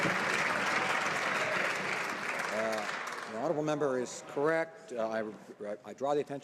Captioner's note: some Applause